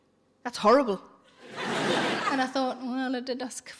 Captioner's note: audience laughing